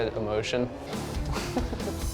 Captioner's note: chuckles